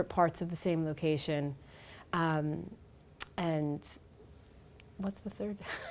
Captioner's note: laughs